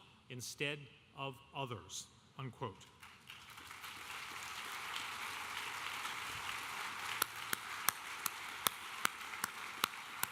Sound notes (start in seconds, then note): 3.0 audience applauding